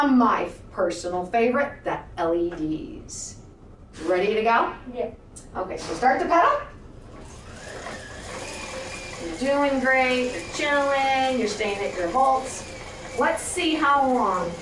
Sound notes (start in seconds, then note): 7.3 pedals cycling